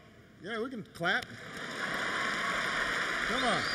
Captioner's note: applause